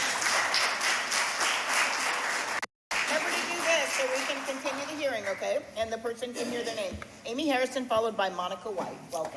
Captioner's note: applause